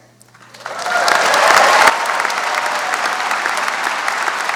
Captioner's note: audience applauds